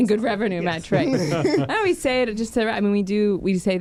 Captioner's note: everyone laughing